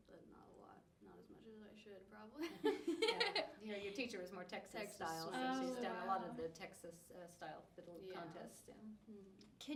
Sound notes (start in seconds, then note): 2.4 laughing; 2.6 laughs